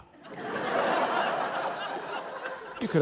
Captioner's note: laughter